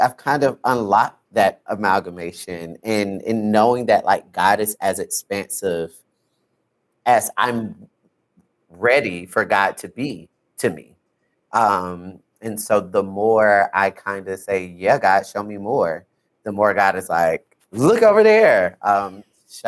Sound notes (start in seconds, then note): none